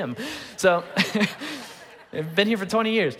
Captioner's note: congregation laughing